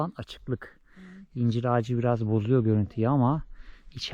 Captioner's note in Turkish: none